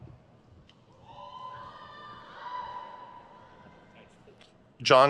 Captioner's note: crowd cheers